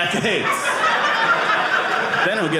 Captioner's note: audience laughing